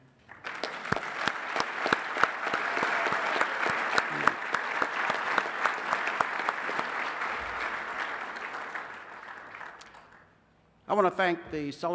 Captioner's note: applause